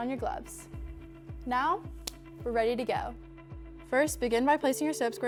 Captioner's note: glove snaps